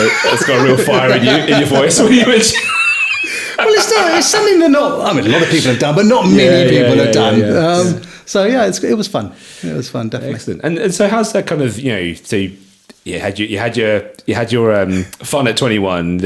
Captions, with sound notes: It's got a real fire in your voice. (laughing) Well, it's something that not, I mean, a lot of people have done, but not many people have done. So yeah, it was fun. It was fun Excellent. And so how's that kind of, you know, so you had your fun at 21,